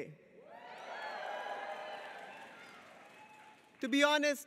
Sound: audience cheers

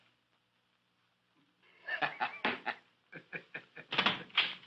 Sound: laughing

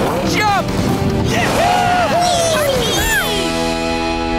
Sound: cheering

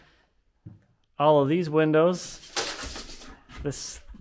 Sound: tape measure rattling

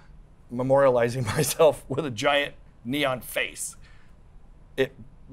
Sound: laughs

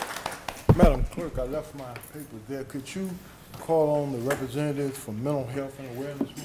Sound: applause

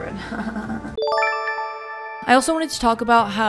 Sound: nervous laughter; chime

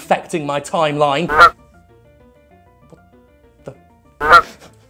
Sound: goose quacking

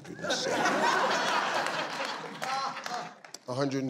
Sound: audience laughs

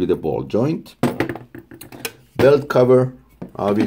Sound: parts clanging

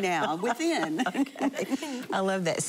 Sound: laughing

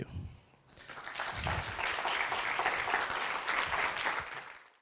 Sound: audience applause

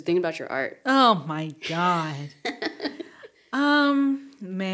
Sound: giggling

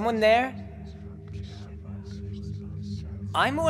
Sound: whispers

